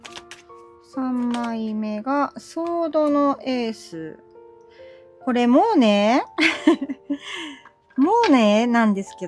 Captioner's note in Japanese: 笑い